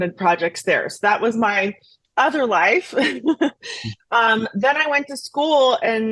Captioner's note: laughs